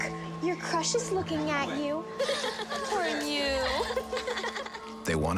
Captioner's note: laughter